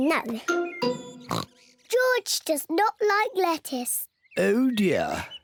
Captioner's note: oinks